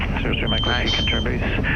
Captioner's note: radio chatter